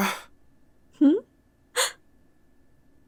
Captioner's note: gasp